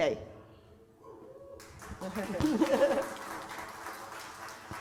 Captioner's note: applause